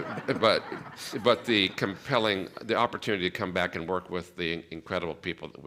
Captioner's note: laughter